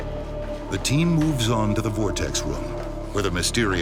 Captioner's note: voiceover